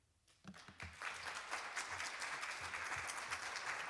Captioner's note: applause